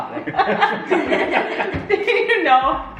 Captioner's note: family laughs